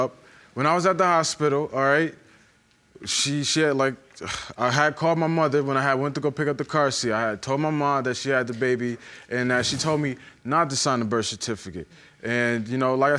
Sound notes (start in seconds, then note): 5.0 sighs